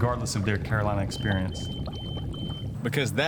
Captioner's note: alarm beeping